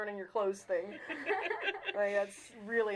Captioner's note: all laughing